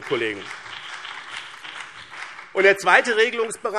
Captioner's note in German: Beifall BÜNDNIS 90/DIE GRÜNEN und CDU